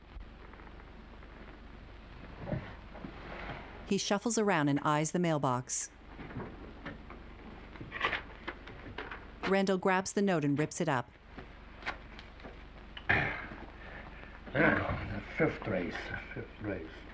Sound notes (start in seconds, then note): 9.2 paper ripping; 13.0 Mr. Randall clearing throat